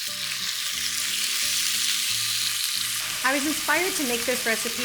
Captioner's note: chicken sizzling